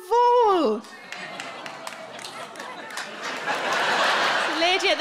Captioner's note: scattered audience applauding